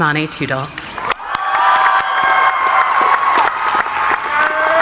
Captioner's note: audience applauding; cheering